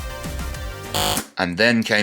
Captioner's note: buzzer